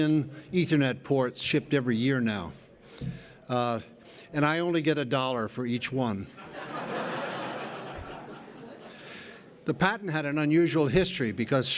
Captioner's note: laughter